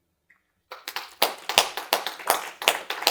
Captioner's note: applause